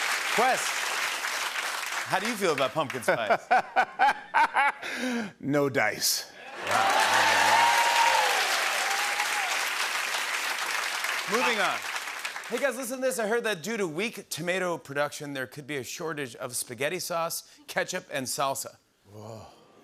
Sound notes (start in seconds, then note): 3.2 laughs; 6.5 cheers and applause